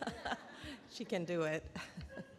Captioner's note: laughs